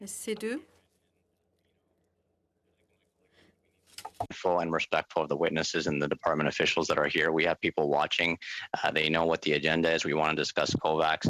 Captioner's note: speaking French